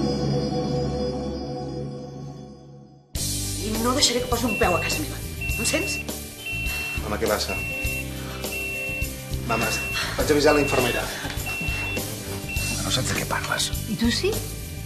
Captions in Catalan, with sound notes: I no deixaré que posi un peu a casa meva, em sents?(piiip-piiip-piiip...) (piiip-piiip-piiip...)Mama, què passa? Mama, vaig a avisar la infermera.(piiip-piiip-piiip...) -Que no saps de què parles...-I tu sí?